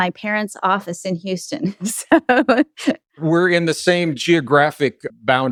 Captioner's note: laughs